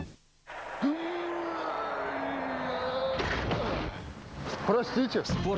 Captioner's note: knock